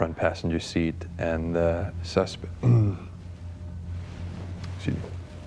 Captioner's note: clears throat